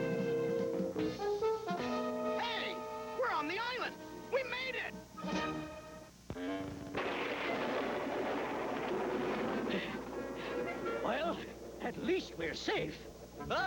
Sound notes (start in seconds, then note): 6.9 thunder